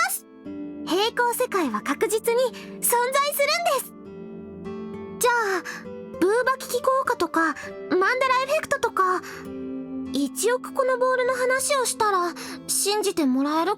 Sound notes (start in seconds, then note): none